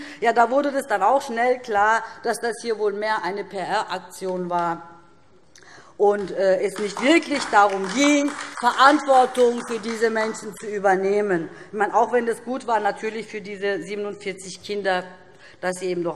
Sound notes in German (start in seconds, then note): 4.7 Beifall DIE LINKE